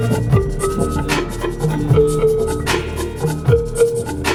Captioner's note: car alarm blaring